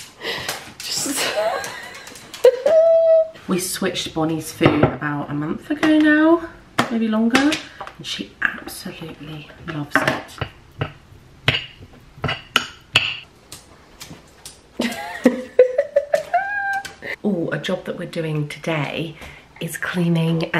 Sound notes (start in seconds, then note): 1.0 laughing; 11.4 utensil chopping; 14.8 laughing